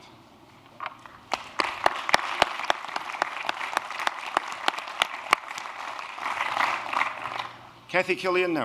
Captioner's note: applause